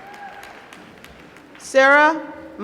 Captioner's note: applause